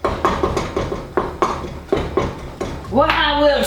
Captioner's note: spoon banging